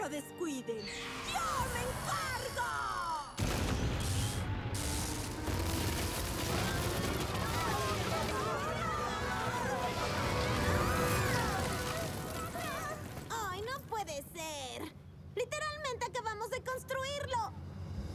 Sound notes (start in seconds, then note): 3.9 crash; 7.1 zaps; 10.0 screams